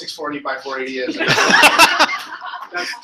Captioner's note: laughter